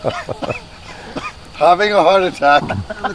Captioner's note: laughing; coughing